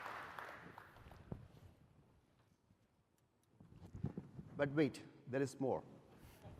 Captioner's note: applause